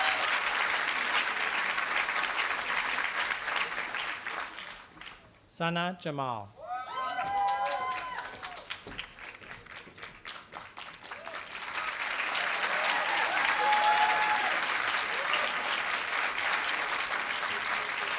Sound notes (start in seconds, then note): 7.0 applause